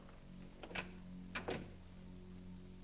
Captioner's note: doors close